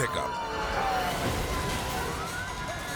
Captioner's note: sirens wailing; car rumbles